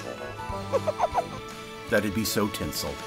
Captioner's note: giggles